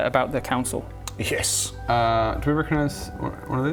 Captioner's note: none